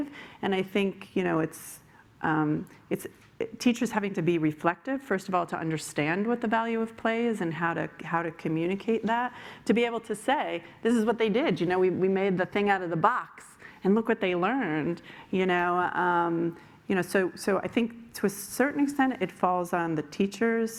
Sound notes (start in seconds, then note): none